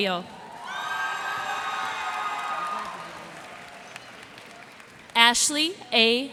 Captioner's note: cheers and applause